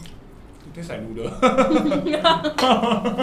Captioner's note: laughs